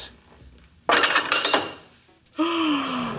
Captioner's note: glass clinking